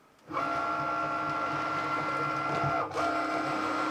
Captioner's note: Cricut whirs